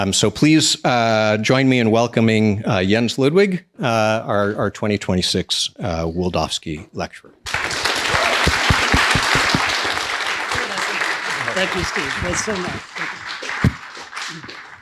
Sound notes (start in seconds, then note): 7.4 crowd cheering